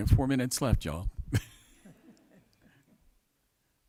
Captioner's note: chuckling